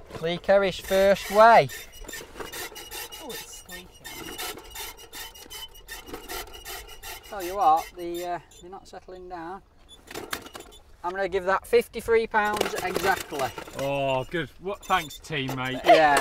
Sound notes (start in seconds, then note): 2.1 scale creaks